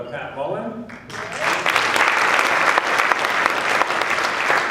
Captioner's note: applause